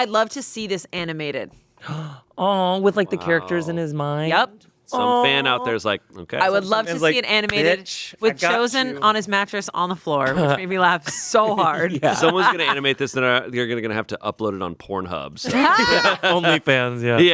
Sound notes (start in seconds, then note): 1.8 gasps; 7.4 claps; 15.4 laughing